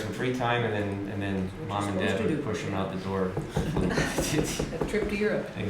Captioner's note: laughter